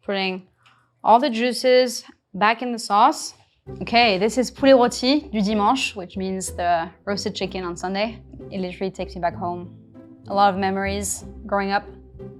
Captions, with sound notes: Putting all the juices back in the sauce. Okay, this is [speaks in foreign language] which means the roasted chicken on Sunday. It literally takes me back home. A lot of memories growing up.